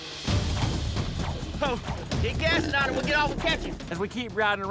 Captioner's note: shouting